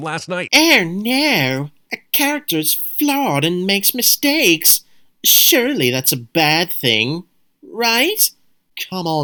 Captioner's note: mocking voice